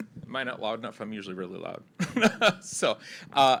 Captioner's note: laughs